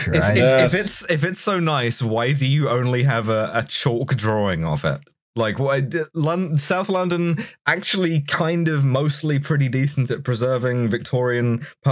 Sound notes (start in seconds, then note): none